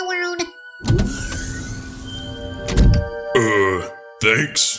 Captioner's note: freezer opens